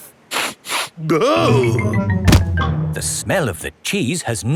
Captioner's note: sniffs and groans